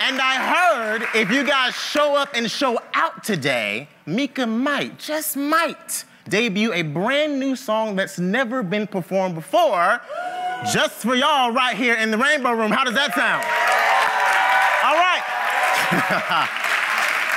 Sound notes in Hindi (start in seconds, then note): 13.3 ताली; 14.1 भीड़ द्वारा जय जयकार करते हुए; 15.7 हंसते हुए